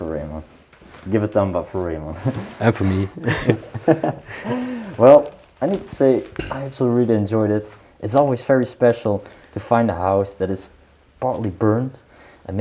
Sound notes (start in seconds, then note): 2.1 laughing